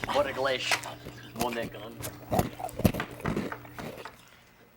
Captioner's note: chewing